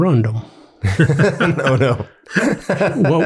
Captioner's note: everyone laughs